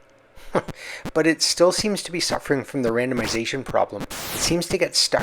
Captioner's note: chuckles